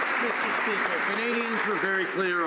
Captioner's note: some Applause